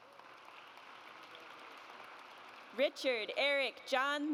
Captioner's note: audience applauds